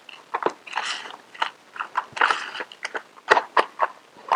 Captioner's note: clumps up dirt